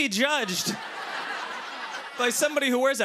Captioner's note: laughter